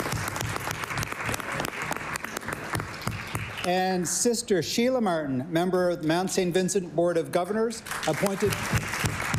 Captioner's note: cheering/Applause